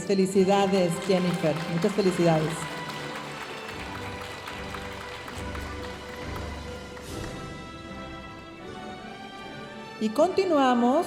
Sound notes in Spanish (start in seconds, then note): 3.1 aplausos de la audiencia